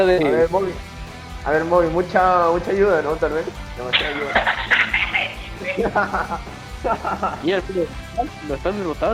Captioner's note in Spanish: Risas